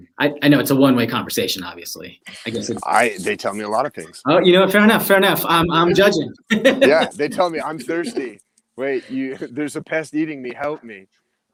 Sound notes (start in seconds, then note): 6.4 laughs